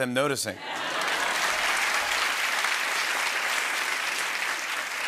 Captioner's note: applause